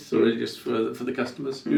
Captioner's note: hands clapping